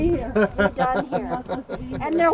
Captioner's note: crowd laughing